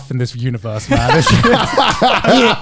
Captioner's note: laughs